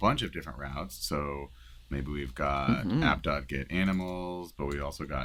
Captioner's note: animals